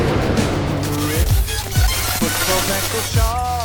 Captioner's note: electric crackle in music